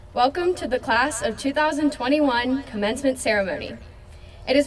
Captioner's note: none